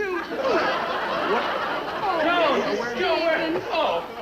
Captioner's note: quarreling noises